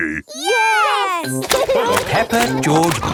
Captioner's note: laughing